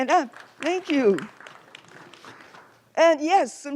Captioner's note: applause